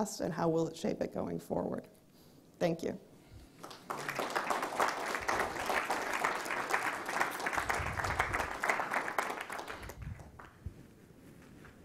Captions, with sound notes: and how will it shape it going forward? Thank you. (audience applauds)